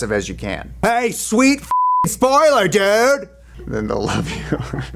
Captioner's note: beep; chuckles